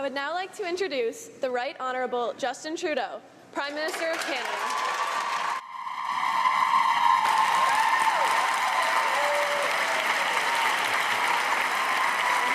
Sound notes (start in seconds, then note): 9.4 cheers and applause